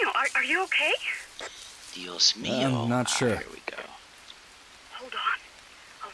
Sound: sarcastically

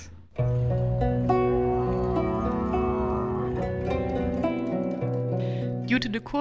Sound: tranquil music; camel grunting

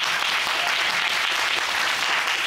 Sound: audience applauding

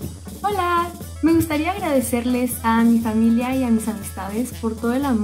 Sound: speaks in foreign language

